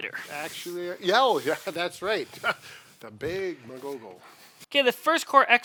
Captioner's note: laughs